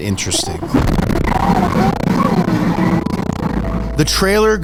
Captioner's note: air whooshing